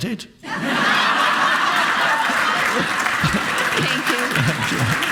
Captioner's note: audience laughing